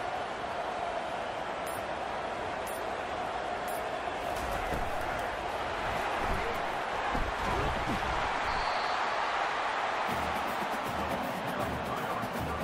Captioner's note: crowd cheering